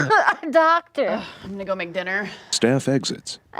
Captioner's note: coughing; sighs